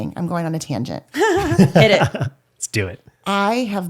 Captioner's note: laughs